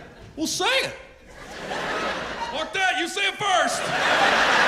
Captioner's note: laughter